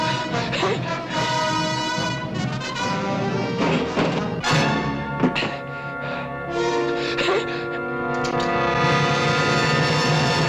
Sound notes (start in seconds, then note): 0.3 tense music - gasping; 8.1 click